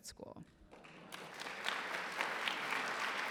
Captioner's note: applause